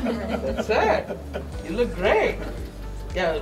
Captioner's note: all laugh